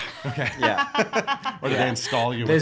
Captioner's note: laughing